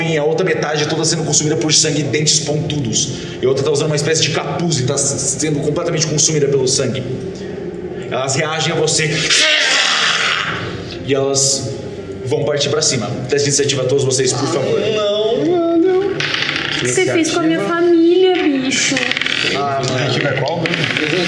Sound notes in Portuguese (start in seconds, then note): 9.2 grunhido